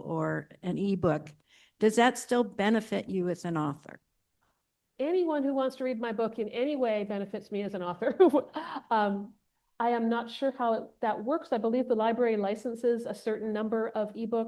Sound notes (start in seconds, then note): 8.1 chuckles